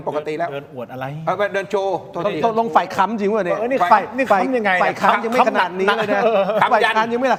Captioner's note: laughs